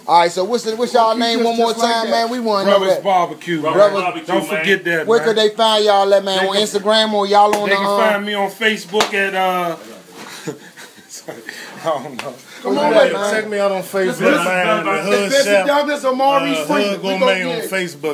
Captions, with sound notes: All right so what's ya'll name one more time man? Brothers Barbecue, don't forget that man. Where can they find ya'll at on Instagram or ya'll on the. they can find me at Facebook at uh. (chuckles) I don't know. Check me out on Facebook, man at the Hood Chef, ah Hood Gourmet on FaceBook.